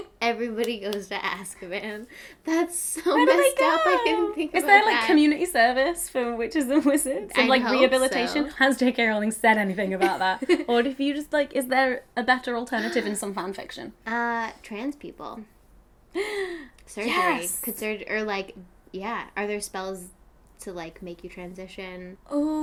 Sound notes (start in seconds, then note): 16.2 gasping